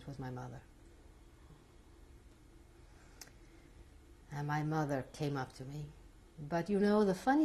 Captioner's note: pauses for 3 seconds